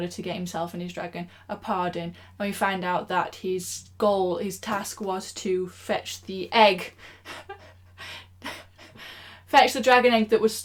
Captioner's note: laughs